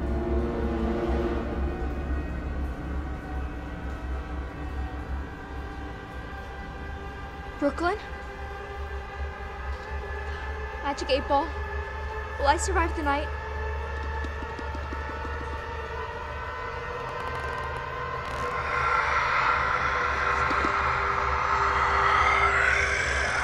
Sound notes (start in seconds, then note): 0.0 music intensifies; 16.9 creaky footstep; 18.7 evil whisper; 21.2 music intensifies